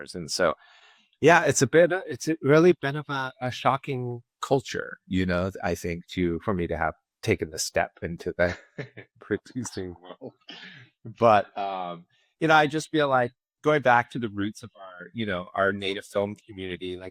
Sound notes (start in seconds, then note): 8.1 laughs